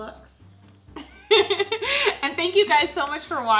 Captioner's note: laughs